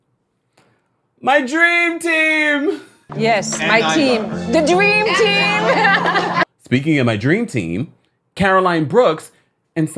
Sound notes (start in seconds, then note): 5.3 laughing